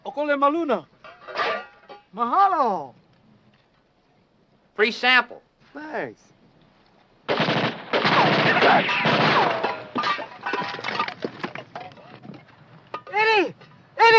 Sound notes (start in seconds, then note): 0.2 speaking foreign language; 7.2 guns firing